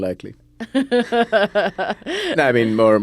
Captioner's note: laughs